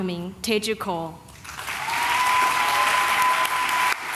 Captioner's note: applause